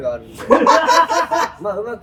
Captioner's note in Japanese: 笑い声